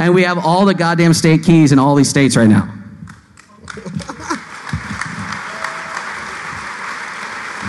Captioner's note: applause